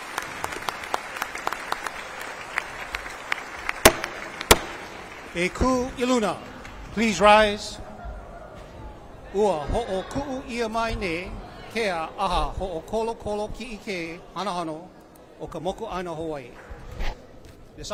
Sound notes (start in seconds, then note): 0.0 applause; 3.8 gavel bangs twice